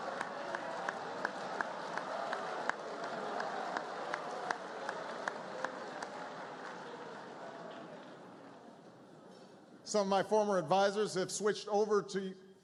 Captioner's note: laughter, applause